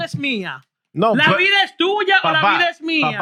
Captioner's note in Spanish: Hablando en idioma extranjero